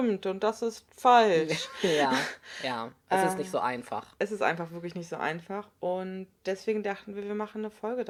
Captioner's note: laugh